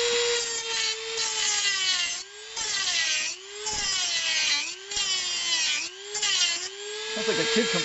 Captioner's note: metal cutting sounds